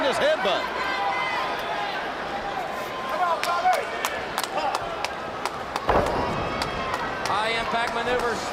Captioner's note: crowd chatter